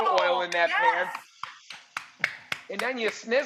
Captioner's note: clapping